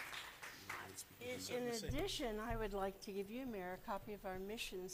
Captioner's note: applause